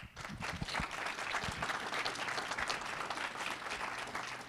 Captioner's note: audience applauding